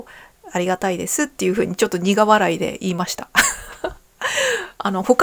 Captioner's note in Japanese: 笑い